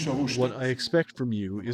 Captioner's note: through translator